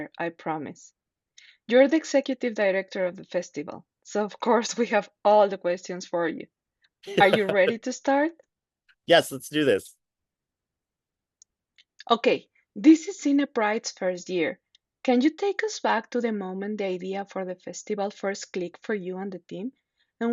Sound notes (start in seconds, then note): 7.1 laughs